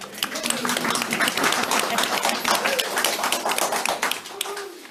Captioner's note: audience applauds